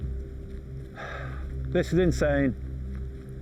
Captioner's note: sighs